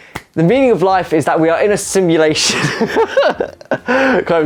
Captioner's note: laughs